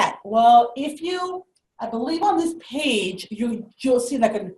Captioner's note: none